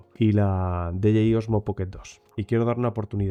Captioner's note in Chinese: 英语